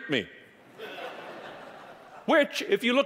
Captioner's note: audience laughing